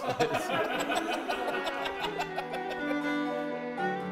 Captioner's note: everyone laughing